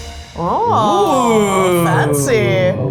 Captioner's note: judges moaning